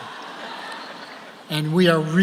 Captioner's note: audience laughs